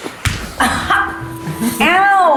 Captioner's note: laughter